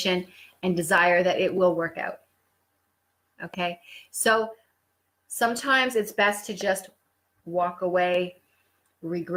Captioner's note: breathe